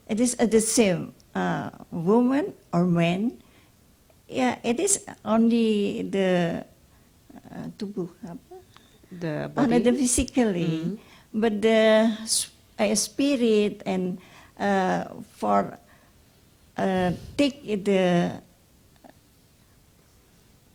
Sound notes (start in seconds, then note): 6.9 speaks Indonesian